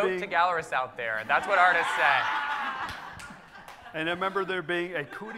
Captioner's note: audience laughing